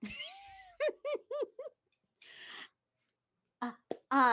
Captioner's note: laughs